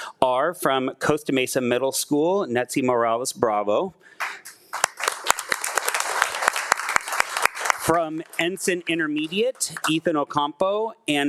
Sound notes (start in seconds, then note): 4.2 claps; 4.2 attendees clapping